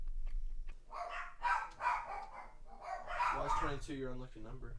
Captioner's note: dog barking